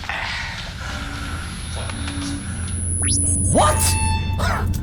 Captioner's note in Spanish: timbre agudo